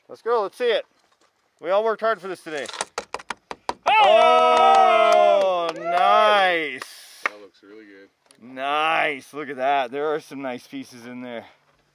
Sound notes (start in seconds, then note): 3.8 cheering